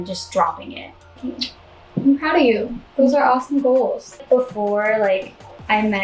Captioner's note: more adorable noises